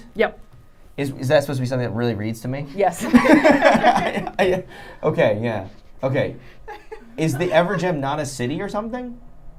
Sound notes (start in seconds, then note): 3.1 laughing